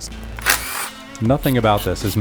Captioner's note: drill whirring